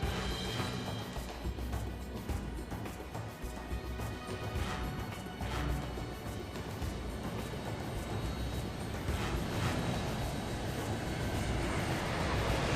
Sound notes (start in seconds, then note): 0.1 upbeat adventurous music; 7.9 plane roaring